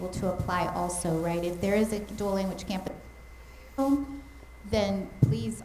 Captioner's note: mic cutting out